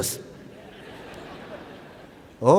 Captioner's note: laughter